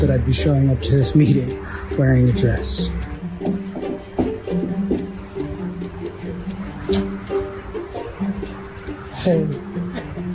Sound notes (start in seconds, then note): 3.8 knocking; 4.8 soft instrumental music